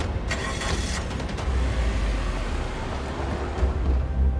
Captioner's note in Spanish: Sonido del carro